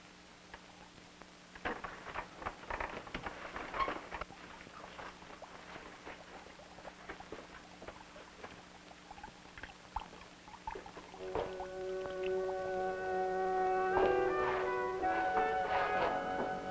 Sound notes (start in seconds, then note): 8.9 water dripping; 11.2 dramatic music